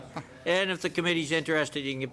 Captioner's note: laughter